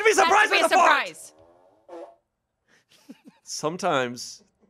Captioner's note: fart machine farts